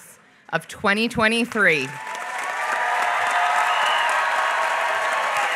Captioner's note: applause